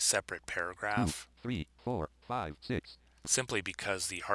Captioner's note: synthesized speech